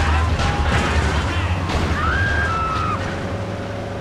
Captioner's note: car engine roaring